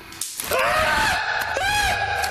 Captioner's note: yelling